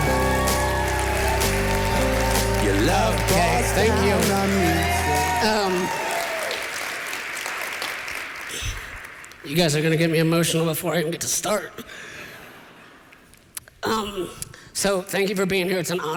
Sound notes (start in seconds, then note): 0.2 cheering; 6.1 applause; 12.0 laughter